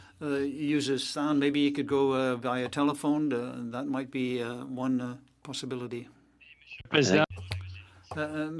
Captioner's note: speaking French